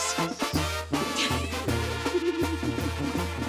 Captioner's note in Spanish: Risas